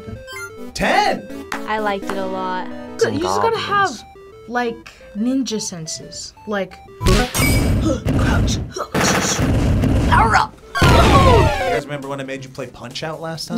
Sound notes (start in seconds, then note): 6.3 bright video game music; 8.9 gunshots; 10.6 sad video game music